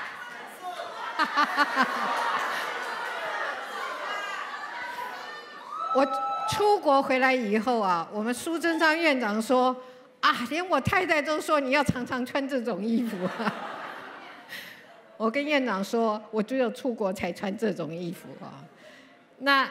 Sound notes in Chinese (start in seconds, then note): 12.9 笑聲